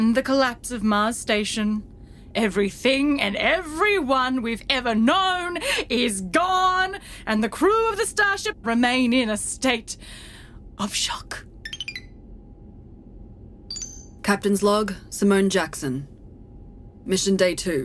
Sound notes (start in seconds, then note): 13.7 beeps